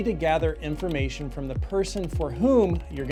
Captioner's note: keyboard clacking